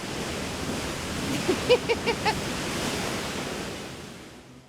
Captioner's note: laughs